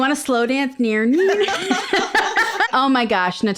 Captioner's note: both laugh